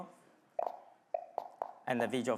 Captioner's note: buttons popping